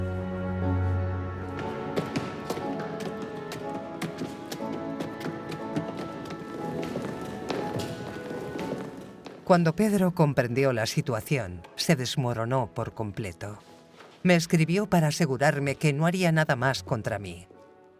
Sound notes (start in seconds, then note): 1.4 boots thudding; 1.6 somber music continues